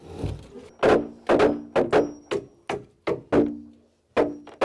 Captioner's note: hammering